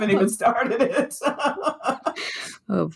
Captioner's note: laughter